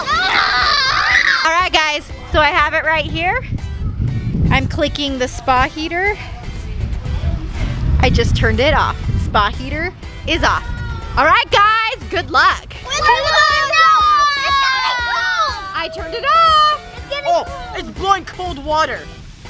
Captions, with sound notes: All right guys, so I have it right here. I'm clicking the spa heater. I just turned it off. Spa heater is off. All right guys, good luck. (kids screaming) I turned it off! - It's getting cold. - It's blowing cold water!